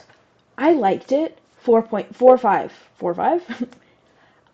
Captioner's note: chuckle